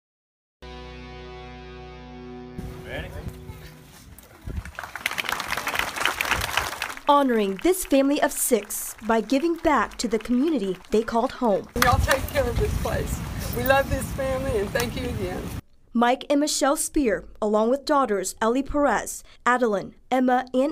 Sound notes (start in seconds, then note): 9.5 applause